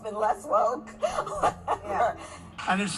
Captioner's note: laughing